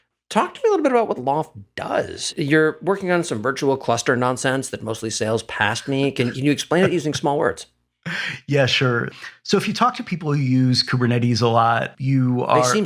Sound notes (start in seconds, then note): 8.0 laugh